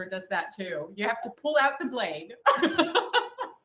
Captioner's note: laughs